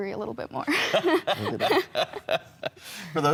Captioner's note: laughing